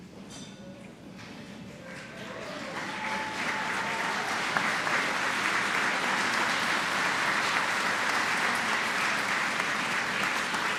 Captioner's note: applause